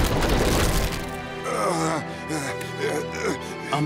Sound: groaning

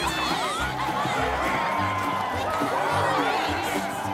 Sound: exited screams

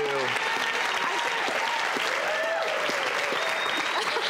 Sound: audience claps

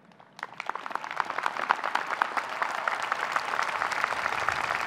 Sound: audience cheering

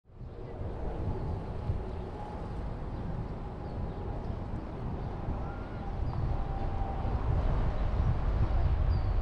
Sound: road Noise

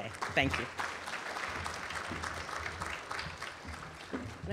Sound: applause

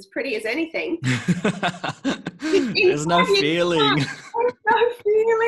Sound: laughing

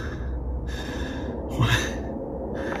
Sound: breathing

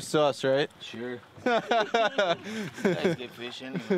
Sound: laughter

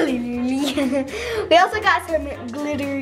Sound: laughs

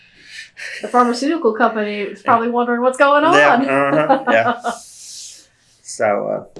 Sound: laughs

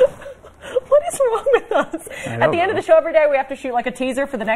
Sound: laughter

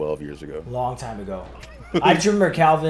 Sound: laugh

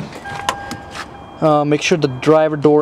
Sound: car beeping

